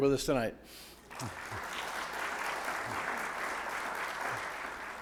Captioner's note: audience clapping